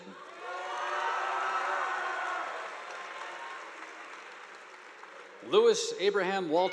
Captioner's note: students cheering; audience applauding